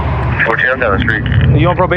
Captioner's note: radio ctter